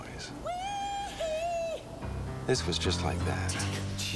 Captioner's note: Megan moaning